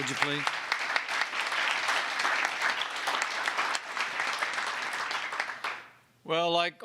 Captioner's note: applause